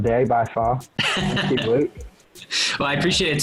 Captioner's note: laughing